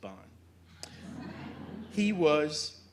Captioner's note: audience chuckling